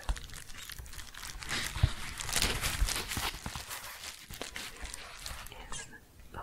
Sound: shuffling and crinkling

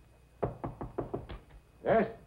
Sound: knocking on door

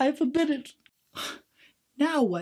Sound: sighs in frustration

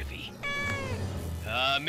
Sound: meowing

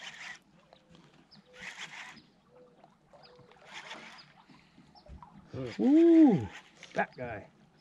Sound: reel cranking

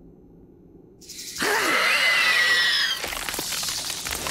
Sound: screeching

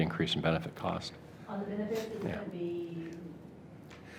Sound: speaks off mic

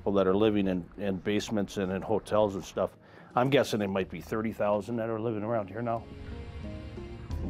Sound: none

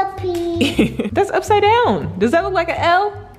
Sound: laughs

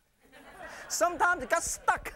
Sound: laughter

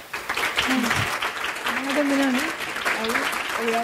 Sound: audience applauding; speaking in Spanish

